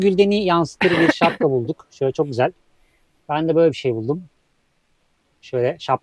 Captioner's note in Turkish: boğazını temizler